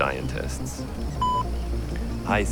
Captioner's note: beep